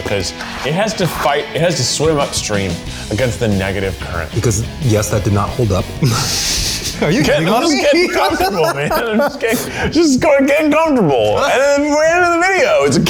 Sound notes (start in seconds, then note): 6.5 laughing